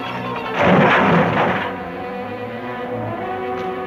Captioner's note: cargo crashing